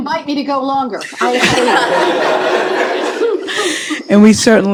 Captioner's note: laughter